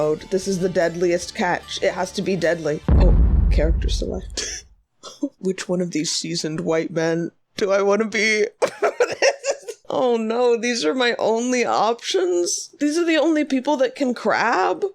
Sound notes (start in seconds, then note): 2.8 boom; 8.6 laughing